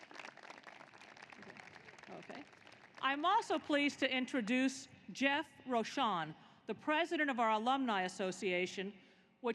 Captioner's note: applause